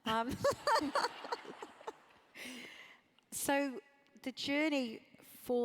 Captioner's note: laugh